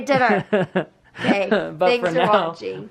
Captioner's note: laughs